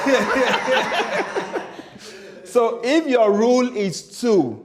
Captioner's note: laughter